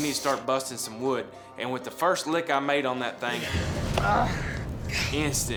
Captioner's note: groaning